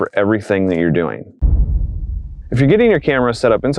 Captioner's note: thud